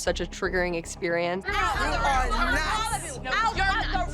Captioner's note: overlapping chatter